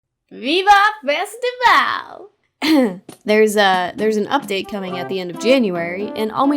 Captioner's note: ahem